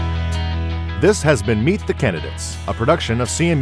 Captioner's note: voiceover